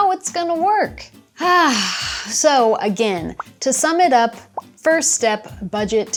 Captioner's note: sighs